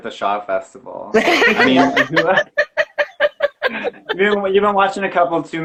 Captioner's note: laughing